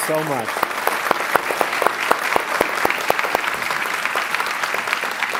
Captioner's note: applause